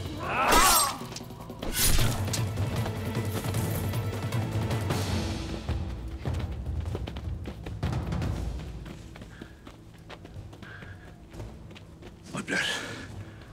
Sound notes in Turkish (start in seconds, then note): 0.0 Dövüş sesleri; 0.3 Kılıç sesleri; 5.1 Ayak sesleri